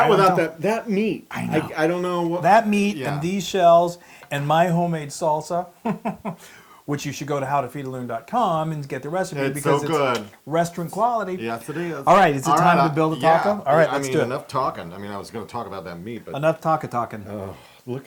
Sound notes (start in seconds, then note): 5.8 laugh